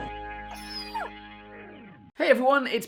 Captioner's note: barks; growls; whines